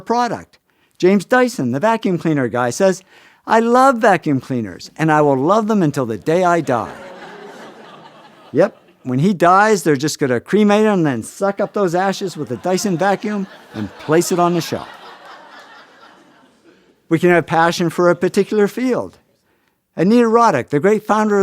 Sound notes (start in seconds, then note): 6.6 Laughter; 6.9 哄堂大笑; 14.3 Laughter